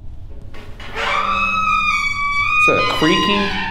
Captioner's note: door squeaking